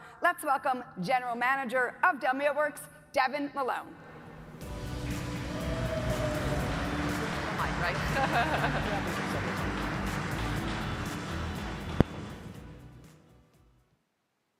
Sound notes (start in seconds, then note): 4.6 upbeat music; 5.0 audience applauding